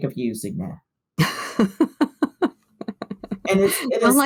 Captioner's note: laughter